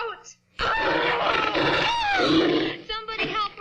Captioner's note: screams